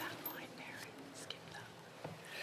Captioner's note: speaking French